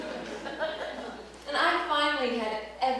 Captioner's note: laughter